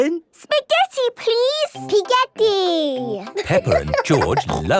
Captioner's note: laughing